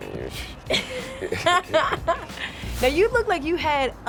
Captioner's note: laughing